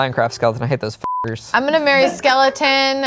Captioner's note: beep